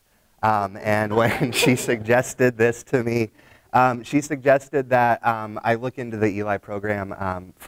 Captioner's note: laughter